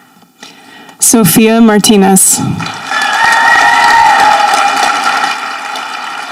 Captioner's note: audience applauding